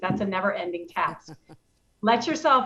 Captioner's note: chuckles